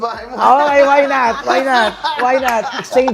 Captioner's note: both laughing